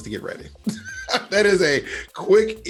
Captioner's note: Bob laughs